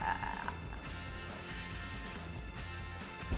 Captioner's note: groans